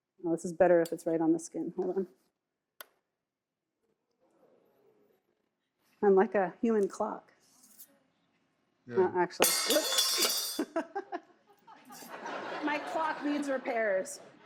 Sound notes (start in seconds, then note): 11.6 audience laughs